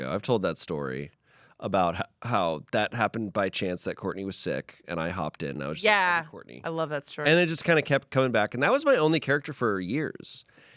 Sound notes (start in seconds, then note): none